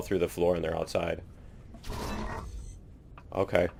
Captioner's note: none